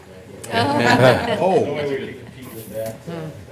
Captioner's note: laughter